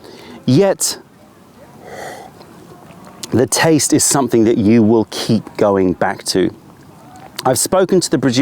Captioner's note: sips tea